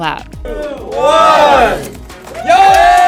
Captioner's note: group cheers